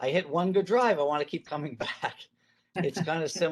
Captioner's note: chuckles